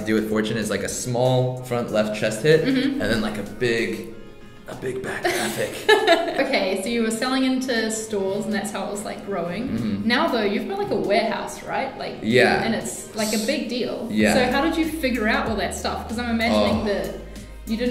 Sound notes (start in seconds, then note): 5.1 laughing